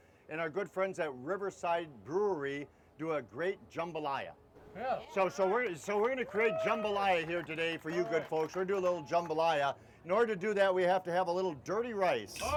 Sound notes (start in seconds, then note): 4.7 audience cheering